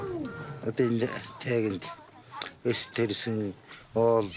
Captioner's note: foreign spoken audio